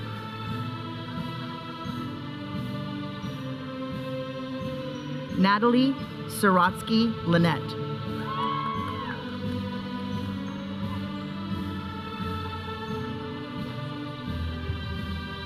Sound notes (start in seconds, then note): 8.2 audience cheering; 9.5 processional music